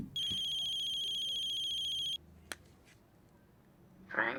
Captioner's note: phone ringing